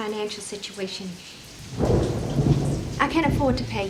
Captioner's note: thunder rumbling; lightning cracking